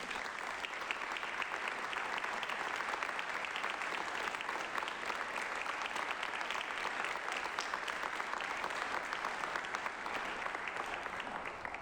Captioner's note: applause